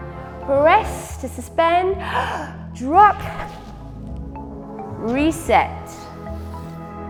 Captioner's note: inhales